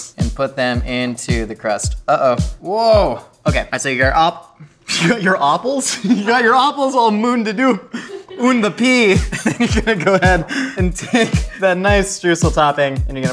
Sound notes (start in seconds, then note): 5.8 giggles; 7.8 laughs